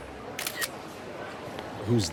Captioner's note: snaps photo